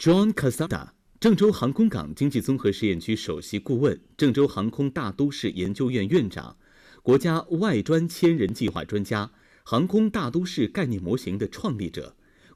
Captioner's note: Chinese audio